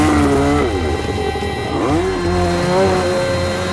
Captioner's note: engine revs